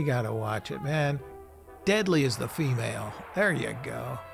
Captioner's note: gunshot blasting